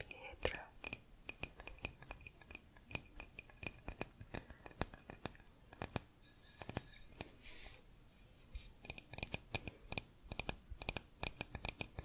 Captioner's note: tapping on stone